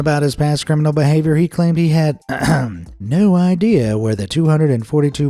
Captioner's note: ahem